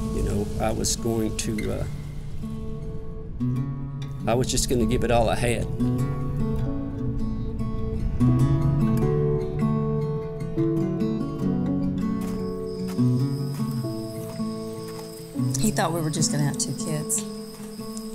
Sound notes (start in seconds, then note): 8.8 soft acoustic music; 12.1 people walking